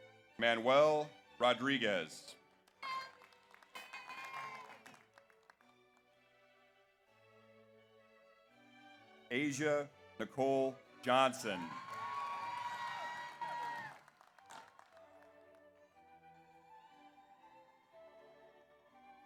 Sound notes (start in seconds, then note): 2.7 audience applauds; 3.9 audience cheers; 11.2 audience cheers; 11.3 audience applauds